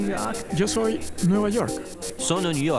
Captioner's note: Spanish